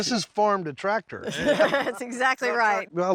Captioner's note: everyone laughs